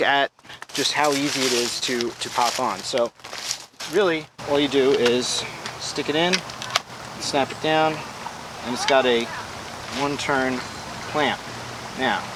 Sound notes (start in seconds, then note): 6.2 wind whirring; 6.2 metal clicks